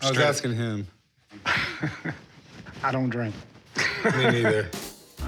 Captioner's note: laughs